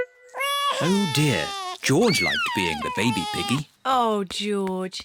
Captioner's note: bawls